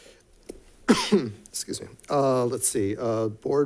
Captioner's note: coughs